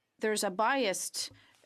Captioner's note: speaking french